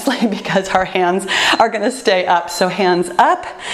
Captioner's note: timer beeps